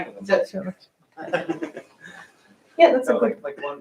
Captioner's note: laughter